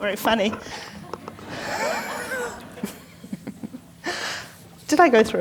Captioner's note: laughter